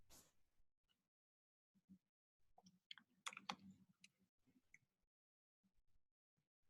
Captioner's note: typing